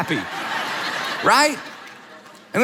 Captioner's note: audience laughs